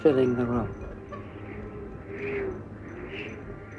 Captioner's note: angin bertiup